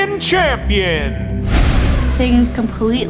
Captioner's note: air whooshing